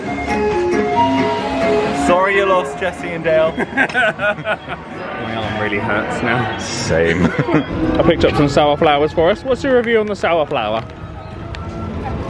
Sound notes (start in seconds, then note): 0.0 bright music; 3.4 laughing; 6.9 chuckles